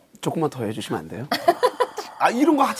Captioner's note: haha